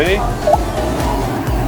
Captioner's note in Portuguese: beep